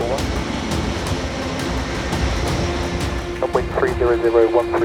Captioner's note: plane engine rumbling; RAF pilots faintly speaking